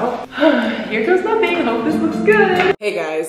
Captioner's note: sighs